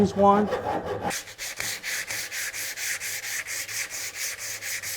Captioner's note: rasp sanding